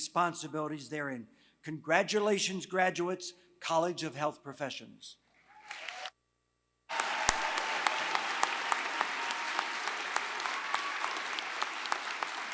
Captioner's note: applause